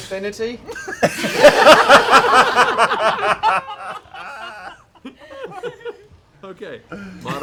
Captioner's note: laughter